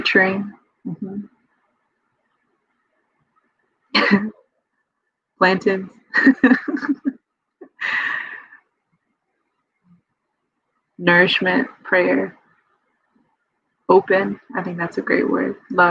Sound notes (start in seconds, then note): 6.2 laughs